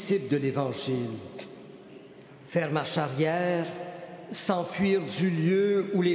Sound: speaking French

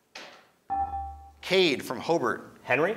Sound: ding

